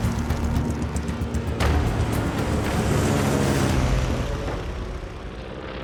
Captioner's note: plane engines roaring overhead